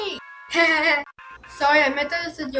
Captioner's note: chuckles